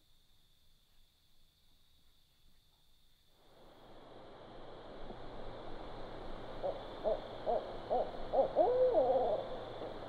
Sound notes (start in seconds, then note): 6.6 owl hoots